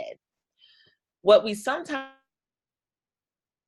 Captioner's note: audio drops out